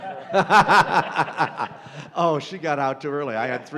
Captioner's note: laughter